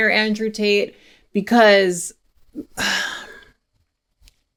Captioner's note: sighs